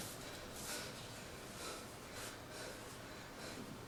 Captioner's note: heavy breathing